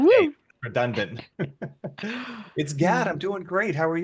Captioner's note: chuckles